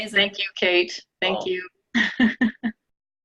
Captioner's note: laughing